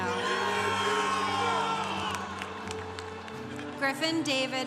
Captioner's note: congregation cheering